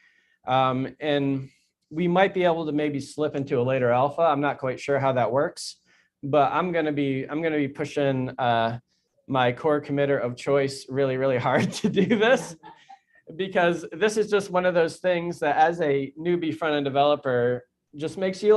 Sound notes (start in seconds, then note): 11.6 chuckles